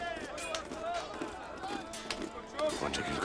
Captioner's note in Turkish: Kılıç sesleri